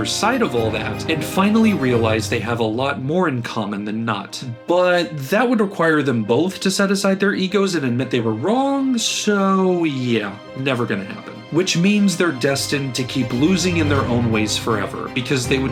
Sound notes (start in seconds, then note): none